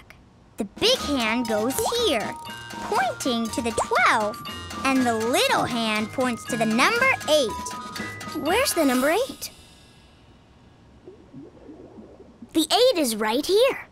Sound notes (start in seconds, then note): none